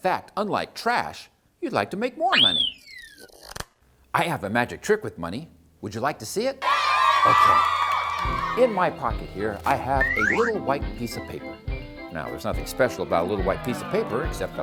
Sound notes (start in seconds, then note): 2.3 whistle; 6.6 cheering!